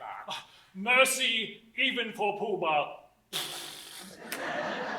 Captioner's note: blows raspberry